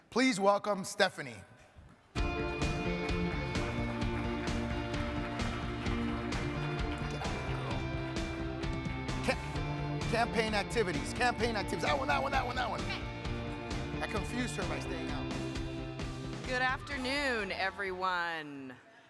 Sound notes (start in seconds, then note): 2.5 crowd applauding; 2.5 uplifting music